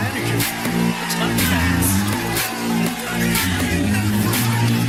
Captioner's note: Aplauze